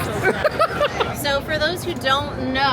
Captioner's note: laughing